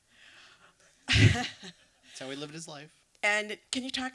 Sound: laughs

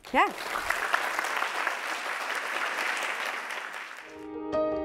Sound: applause

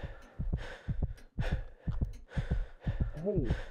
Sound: heart beating fast and hyperventilating

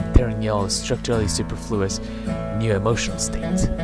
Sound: short inhale

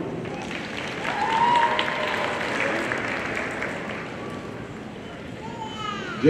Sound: audience cheering and applauding

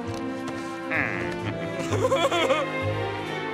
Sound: laughing

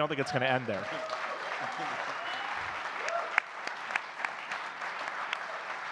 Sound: audience cheering and clapping

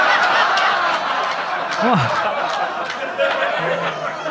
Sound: audience laughing

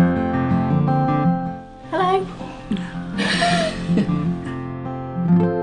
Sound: laughs

